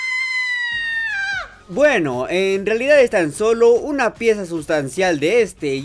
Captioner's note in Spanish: Gritos de perra loca